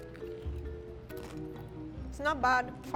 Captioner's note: chip crunching